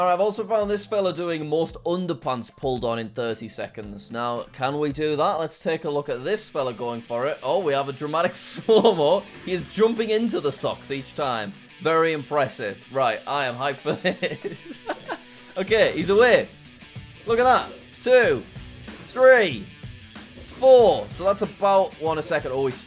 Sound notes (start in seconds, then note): 13.8 laughs